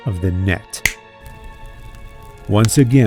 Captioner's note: impersonating Jesus